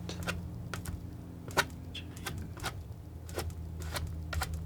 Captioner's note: scratching